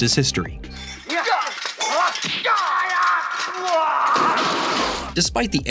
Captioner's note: kung fu exclamations